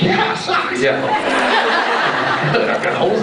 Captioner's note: laughs